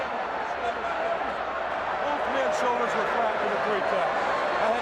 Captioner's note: crowd chatter